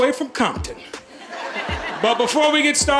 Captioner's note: audience laughing